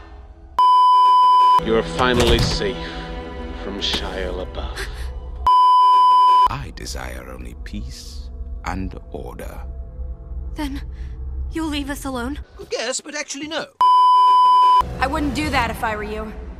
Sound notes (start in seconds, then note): 2.1 thump; 5.0 gasp; 5.4 beeeeeep; 13.8 beeeeeep